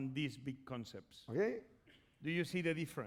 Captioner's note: speaking spanish